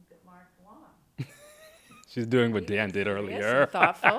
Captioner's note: laughs